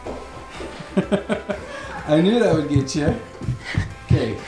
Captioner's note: laughs